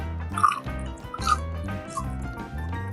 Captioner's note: crunch